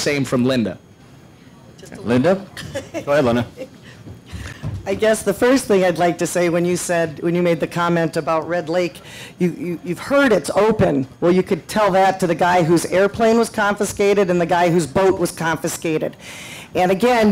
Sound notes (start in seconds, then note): 2.5 laughs